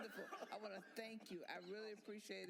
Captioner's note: applause